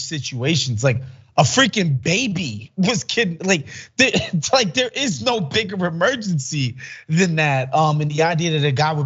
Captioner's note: laugh